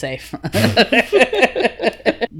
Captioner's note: both laugh